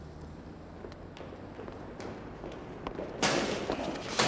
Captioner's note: thudding